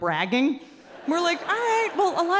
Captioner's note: audience laughing